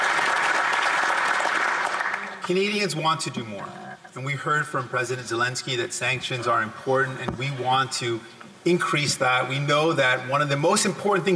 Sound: applause

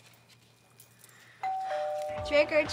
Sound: doorbell rings

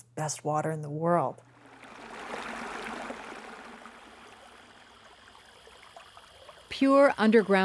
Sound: babbling brook

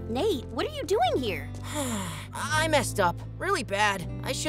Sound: sighing

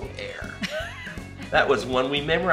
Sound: laughs

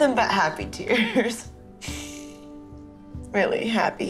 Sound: laughs, sniffles

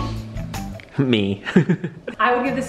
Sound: laughs

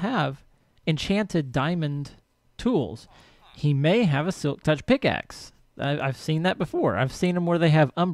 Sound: chattering continues

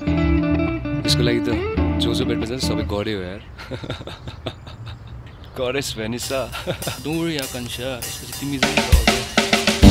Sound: hahahha

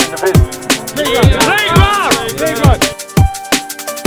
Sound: men shouting

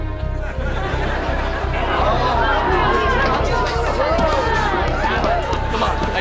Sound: indistinct clatter

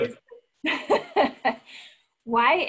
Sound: laughing

